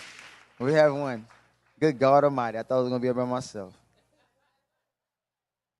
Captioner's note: applause